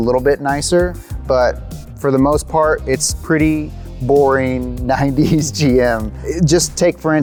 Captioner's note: chuckles